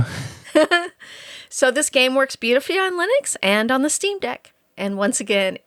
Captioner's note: laughing